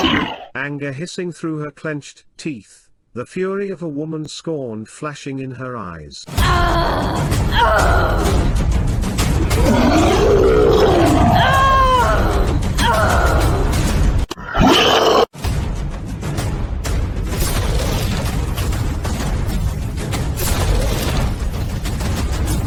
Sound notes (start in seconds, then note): 6.2 monster Roaring; 6.2 shouting; 15.3 war Drums